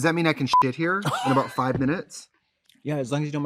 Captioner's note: beep; Katya laughs